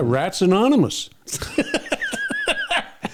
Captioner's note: laughter